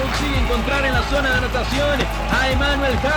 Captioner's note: Spanish